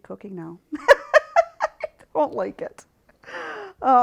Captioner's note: laughing